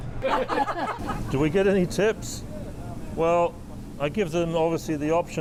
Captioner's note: laughter